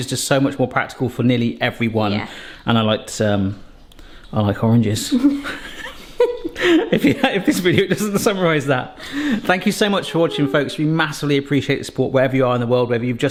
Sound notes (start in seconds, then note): 5.1 both chuckle